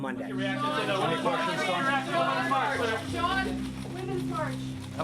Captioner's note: reporters clamoring